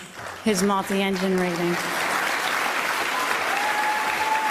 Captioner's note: applause